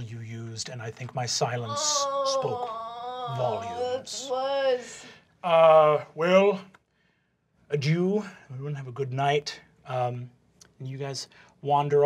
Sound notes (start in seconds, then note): 4.0 groaning